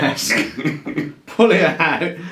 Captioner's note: both laughs